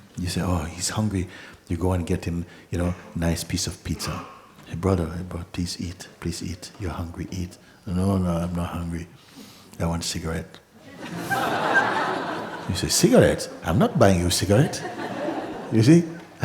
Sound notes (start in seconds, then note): 10.8 laughter